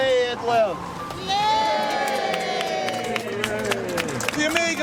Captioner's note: people cheer